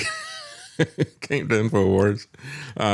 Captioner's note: laughs